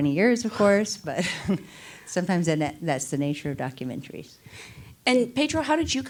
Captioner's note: laughs